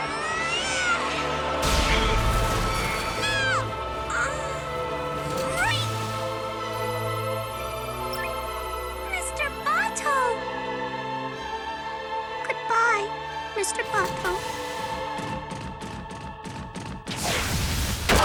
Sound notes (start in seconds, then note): 0.2 yells; 3.9 grunts